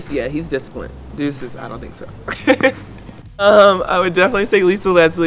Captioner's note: chuckles